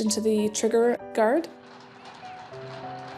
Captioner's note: horses trotting